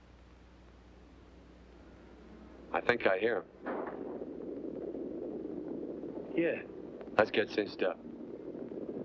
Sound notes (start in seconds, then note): 3.6 distant gunshot & hooves pounding